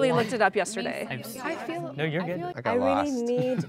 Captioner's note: overlapping chatter